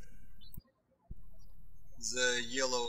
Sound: birds chirping

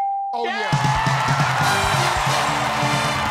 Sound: cheers and applause

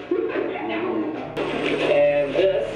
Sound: all laughing

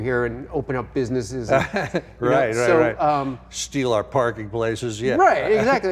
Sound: laughing

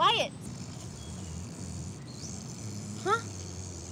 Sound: snoring

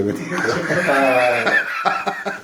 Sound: laughter

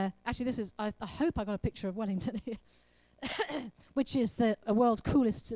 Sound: laughs and coughs

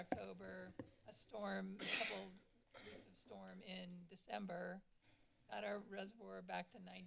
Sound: coughing

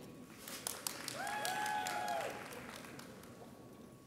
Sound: audience applauds

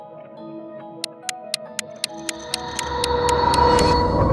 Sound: clock ticking; dramatic music

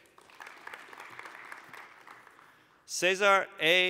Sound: applause

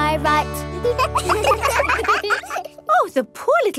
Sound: children laugh

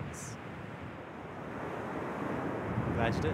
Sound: waves crashing

